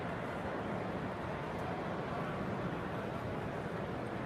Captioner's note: people chattering